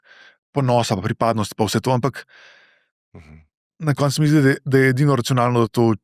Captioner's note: coughing